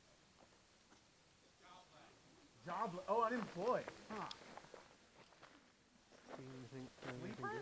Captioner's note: crowd murmurs